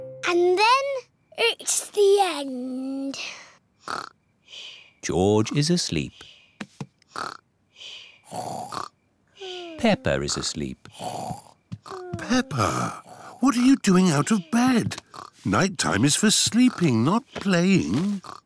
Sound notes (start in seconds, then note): 3.8 snores; 8.2 snores